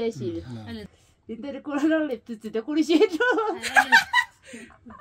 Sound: tibetan conversation

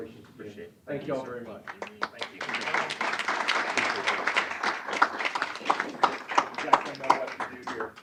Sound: applause

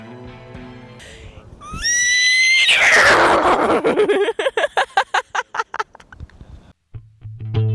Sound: shockingly realistic horse whinny sound

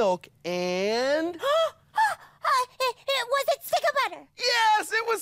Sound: gasps

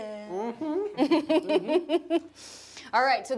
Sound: laughing

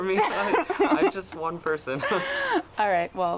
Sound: laughing

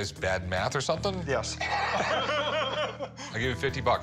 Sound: laughing

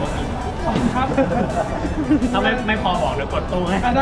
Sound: sarcastically

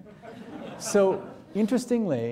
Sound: audience laughing

